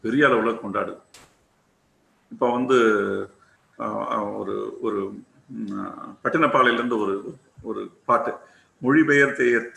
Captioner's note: in tamil